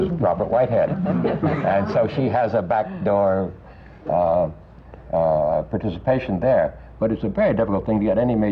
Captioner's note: laughter